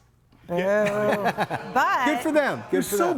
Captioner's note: group laughs